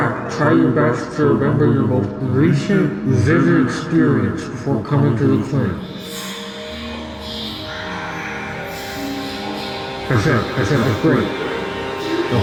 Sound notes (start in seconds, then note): 5.3 strange murmuring